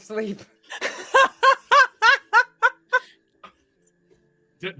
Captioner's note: laughs